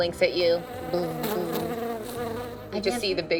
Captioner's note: buzzing